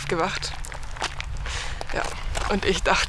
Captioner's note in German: Seufzen